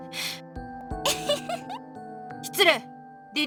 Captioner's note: giggle